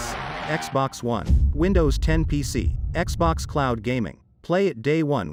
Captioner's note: dramatic sound